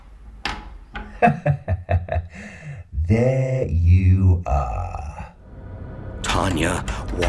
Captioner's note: laughing